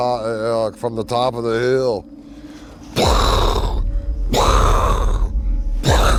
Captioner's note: imitates crashing